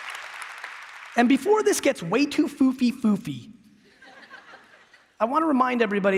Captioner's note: applause